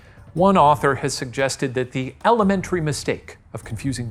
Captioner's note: none